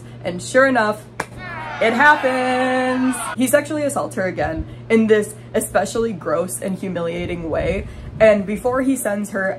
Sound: booing

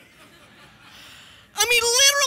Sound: congregation laughing

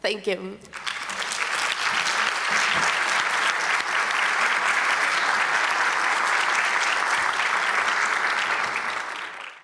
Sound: applause

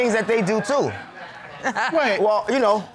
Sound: all laugh

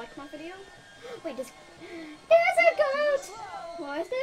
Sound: gasp

